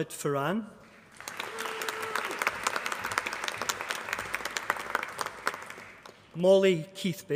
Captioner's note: applause